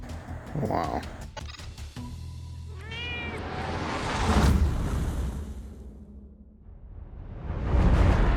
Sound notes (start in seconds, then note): 2.7 meows